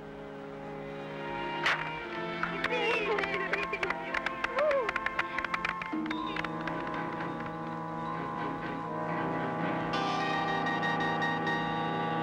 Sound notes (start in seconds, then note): 2.0 applause